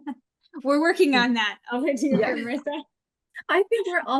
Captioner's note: laughs